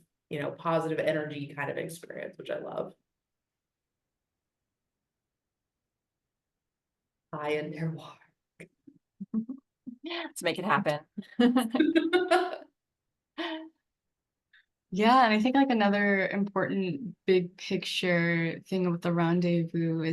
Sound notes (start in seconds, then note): 11.2 laugh; 11.3 laughs